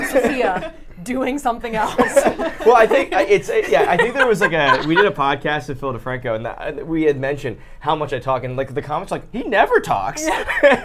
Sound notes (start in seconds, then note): 1.8 laughing